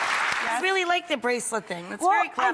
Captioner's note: clapping